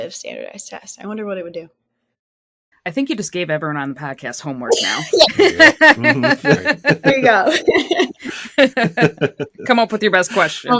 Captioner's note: laugher